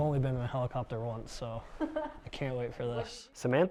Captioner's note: chuckles